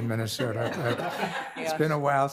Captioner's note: participants laughing